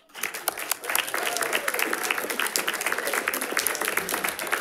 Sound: audience applauding

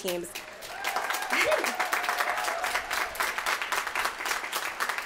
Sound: applause

